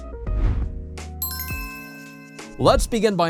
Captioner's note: intro chime